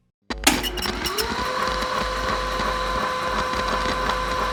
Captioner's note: tape sounds